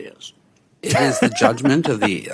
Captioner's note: laughs